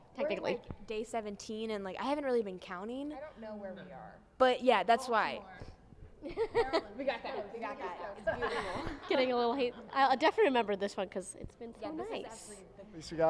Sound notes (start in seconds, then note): 8.1 laughing